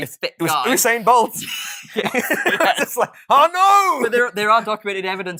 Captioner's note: laughing